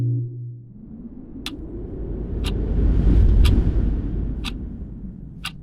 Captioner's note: ticking